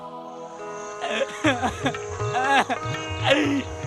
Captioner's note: sobbing, crying